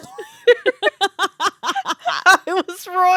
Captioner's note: laughing